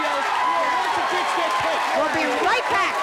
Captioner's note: audience cheering; audience yelling